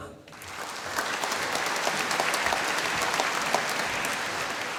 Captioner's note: applause